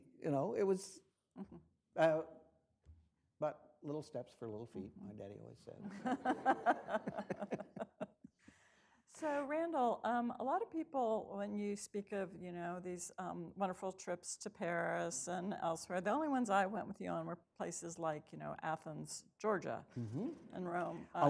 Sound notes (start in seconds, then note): 5.8 laughter